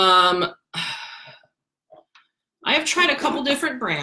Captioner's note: sighs